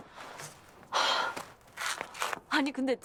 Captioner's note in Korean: 진희 탄식 소리